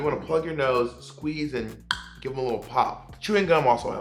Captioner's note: snaps tongue